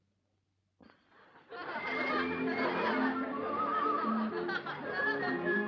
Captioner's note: laughing and music from cinema